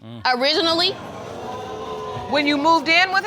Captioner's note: audience exclaiming